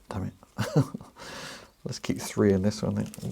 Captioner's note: laughs